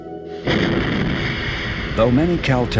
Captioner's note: rocket whooshing